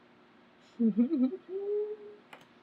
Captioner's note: laughs